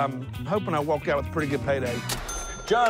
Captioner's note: ding